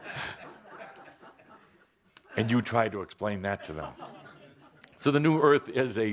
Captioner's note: laughter